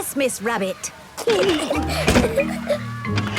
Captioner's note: giggling